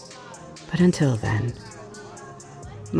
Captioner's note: none